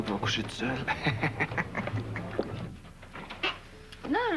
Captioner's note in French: Rire